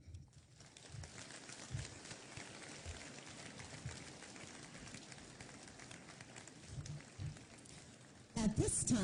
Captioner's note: applause